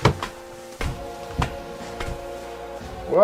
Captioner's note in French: Bruits de pas